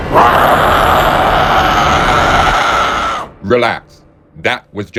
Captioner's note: Bloodbath demon growls